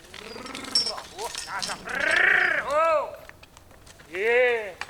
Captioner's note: man shouting